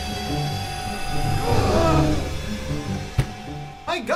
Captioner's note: audience gasps